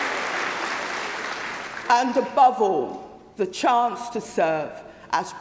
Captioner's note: applause